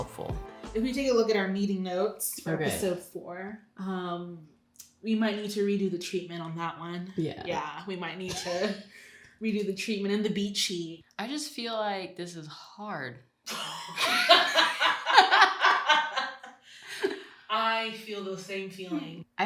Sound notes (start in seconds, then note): 8.2 laughs; 13.5 both laughing